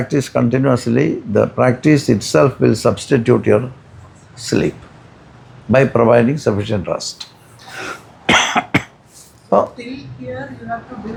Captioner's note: snorts